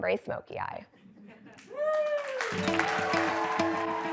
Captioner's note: applause